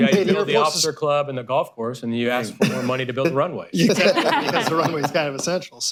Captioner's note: laughter